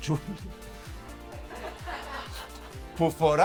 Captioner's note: laughs